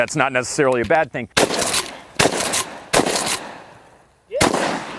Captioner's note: gun shots